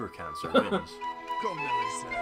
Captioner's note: laughs